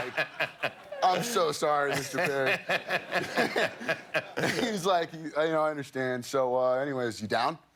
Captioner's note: laughter